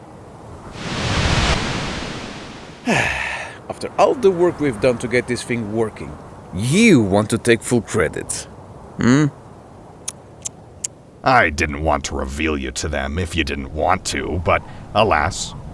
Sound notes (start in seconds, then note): 2.8 Spy sighs